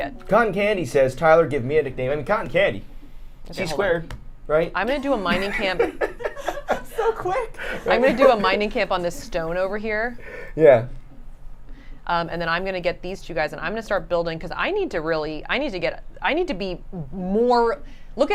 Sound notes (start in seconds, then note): 5.0 laughing